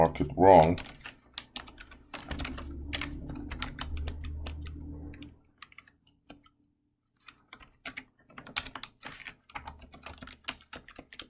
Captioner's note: typing Sounds